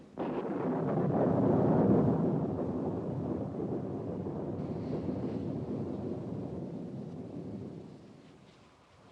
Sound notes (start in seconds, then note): 0.0 thunder continues crashing, rumbling